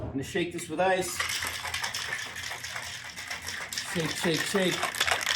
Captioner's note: ice shaking